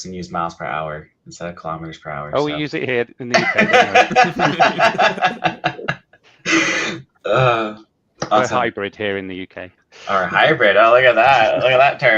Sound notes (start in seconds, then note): 3.4 people laughing